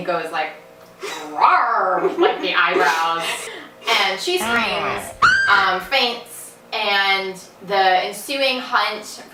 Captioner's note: clip in background: *growl* and then *scream